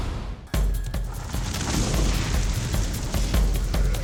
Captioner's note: flames crackling; dramatic music